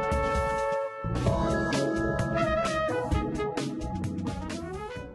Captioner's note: tone